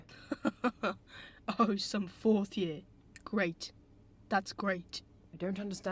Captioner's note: James laughs